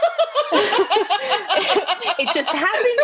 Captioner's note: laughter